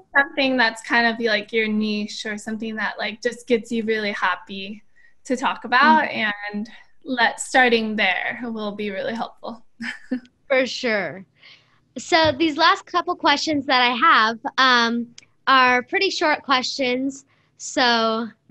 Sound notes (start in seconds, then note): 10.9 laughter